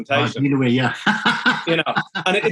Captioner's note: laughing